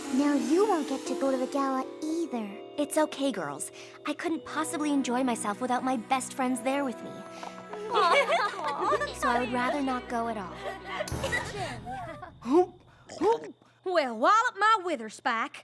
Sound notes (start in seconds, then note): 7.8 all giggling; 13.0 gagging